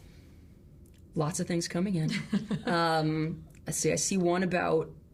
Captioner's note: laughs